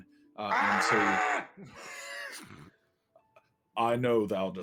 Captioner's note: imitating a Griffin